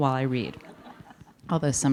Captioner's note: audience laughing